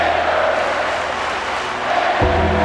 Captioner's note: audience clapping